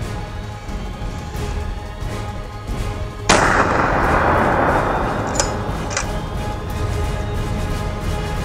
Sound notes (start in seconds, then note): 3.3 gunshot; 5.9 dramatic music